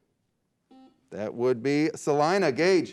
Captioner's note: beep